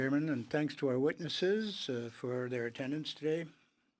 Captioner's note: speaking in French